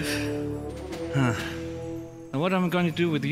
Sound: sigh

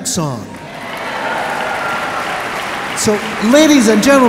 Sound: audience applauding

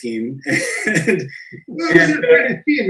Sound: laughs

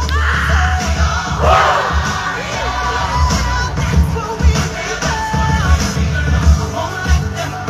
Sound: hoooo!!!

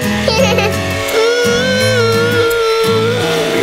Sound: laughs

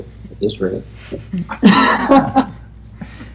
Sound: laughing

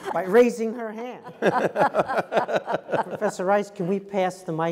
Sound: laugh

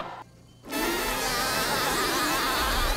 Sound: laughing

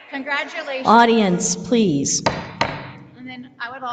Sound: gavel banging

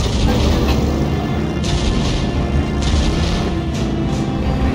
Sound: sounds of motorcycle engine speeding with explosions and laser fire

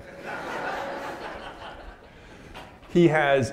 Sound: audience laughing

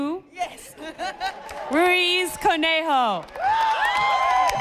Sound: audience applauding

